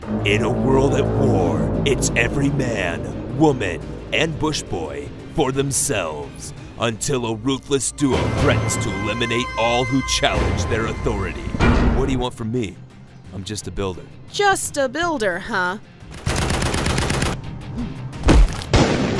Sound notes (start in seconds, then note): 16.2 gunshots; 18.2 squish